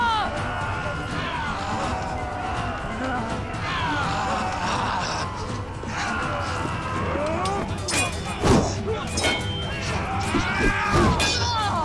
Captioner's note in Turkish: Çarpışma sesleri